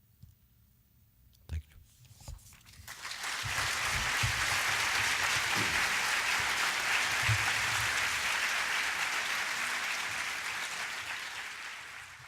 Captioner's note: applause